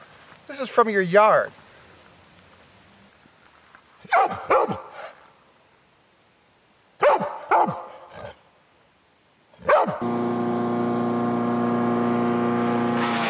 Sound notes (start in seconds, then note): 4.2 barking; 10.0 motor running; 13.1 buzzing